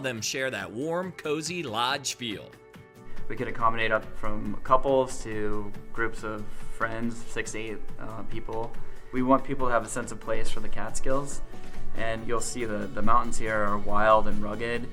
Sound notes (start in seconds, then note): 3.0 male Voice